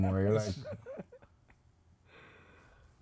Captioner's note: laughing